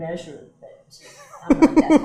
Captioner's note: laughs